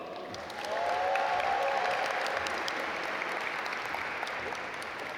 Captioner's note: audience applaud